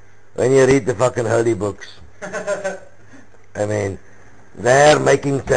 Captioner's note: other: laugh